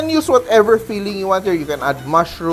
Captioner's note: sizzle